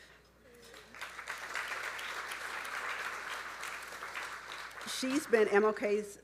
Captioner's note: audience applauding